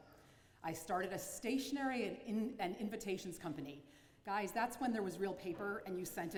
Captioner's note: none